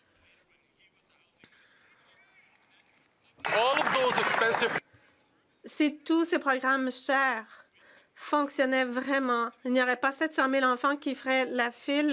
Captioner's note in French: voix de l'interprète